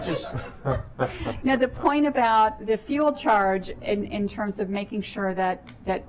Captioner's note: laughter